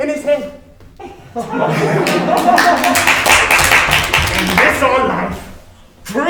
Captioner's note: all laughing and clapping